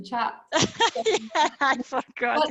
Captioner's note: laughing